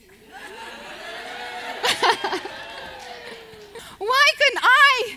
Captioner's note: audience oohs